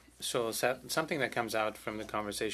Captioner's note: speaking French